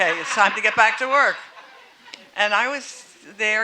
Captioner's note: audience laughing